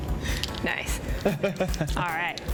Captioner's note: chuckles